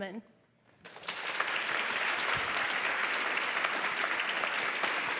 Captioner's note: applause